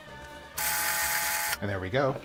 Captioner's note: electronic whirring